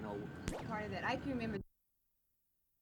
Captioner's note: unknown woman talking; silence